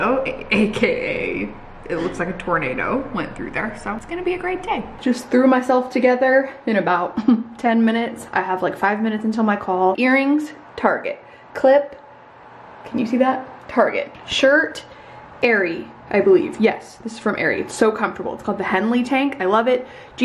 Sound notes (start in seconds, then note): 7.2 chuckles